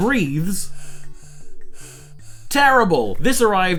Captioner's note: doll hissing